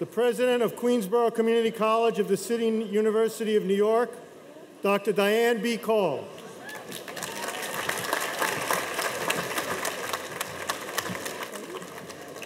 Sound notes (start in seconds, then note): 6.6 audience applauding